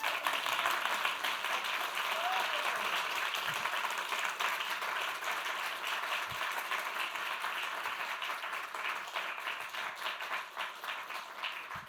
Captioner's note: applause